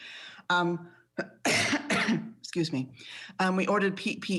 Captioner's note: coughs